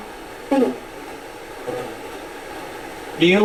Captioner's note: static sound